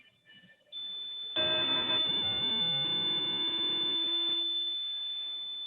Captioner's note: high pitched squealing